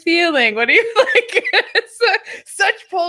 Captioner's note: laughing